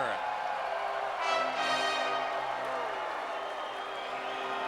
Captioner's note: crowd cheering